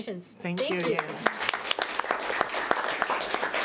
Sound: clapping

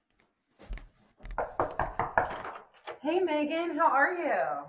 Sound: knocking on door

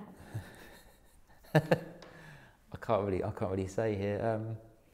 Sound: laughs

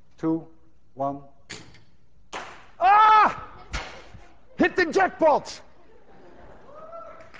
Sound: ball whooshes; shouts; class cheers and applauds

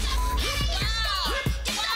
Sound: beep

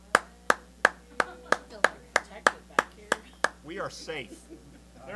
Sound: applause

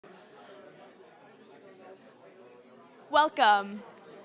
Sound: crowd chattering

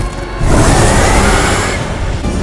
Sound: roaring

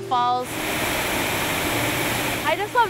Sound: water rushing

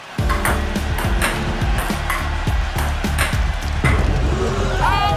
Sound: ball tapping

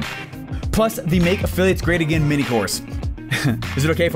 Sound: laughs

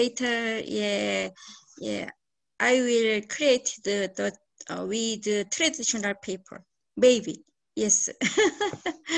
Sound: laughs

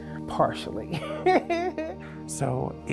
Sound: laughs

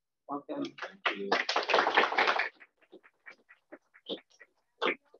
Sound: applause

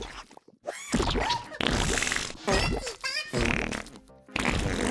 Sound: farting

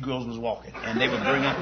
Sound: laughter

